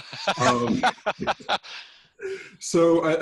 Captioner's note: laughing